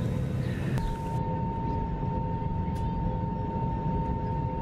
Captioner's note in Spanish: sonido ambiente, taxiing